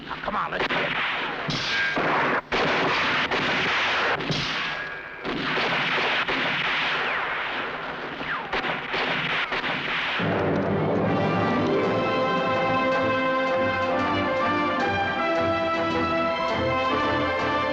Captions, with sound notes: Now, come on. Let's get. (guns firing) (dramatic music)